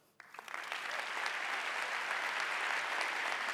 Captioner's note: audience applauding